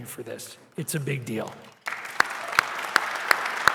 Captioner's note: applause